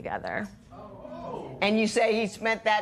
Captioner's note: spectators exclaim